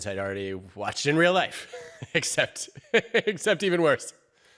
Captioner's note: laughs